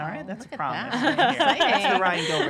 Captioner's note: laughing